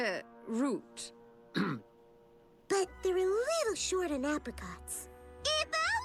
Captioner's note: clears throat